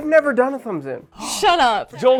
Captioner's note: gasp